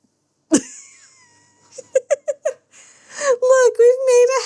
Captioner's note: laughs